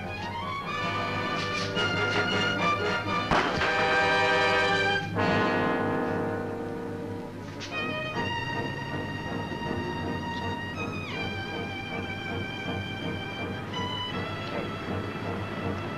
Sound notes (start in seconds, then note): 0.3 dramatic music; 3.0 intense music; 3.3 gun thudding; 7.7 ominous music